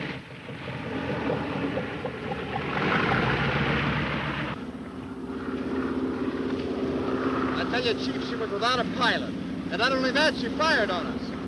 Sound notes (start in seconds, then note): 4.7 plane buzzes